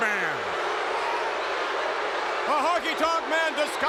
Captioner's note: crowd boos